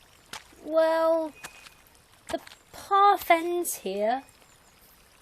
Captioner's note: normal voice